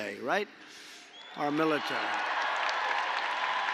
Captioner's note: applause